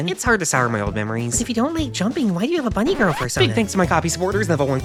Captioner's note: record scratch sound